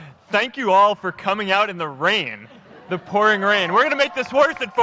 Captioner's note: applause